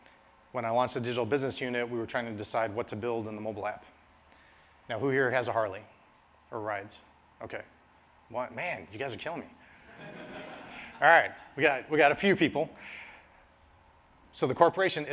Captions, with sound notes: When I launched a digital business unit, we were trying to decide what to build in the mobile app. Now who here has a Harley or rides? OK. One man. You guys are killing me. [LAUGHTER] All right. We got we got a few people. So the corporation,